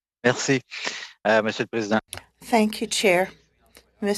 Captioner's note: speaking French